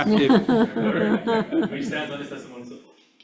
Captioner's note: all laugh